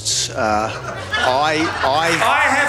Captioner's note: audience laughing